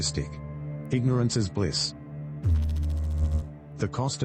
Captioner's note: electrical noise